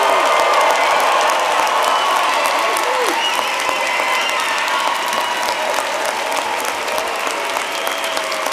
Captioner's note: applause